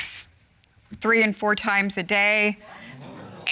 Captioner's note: audience exclaims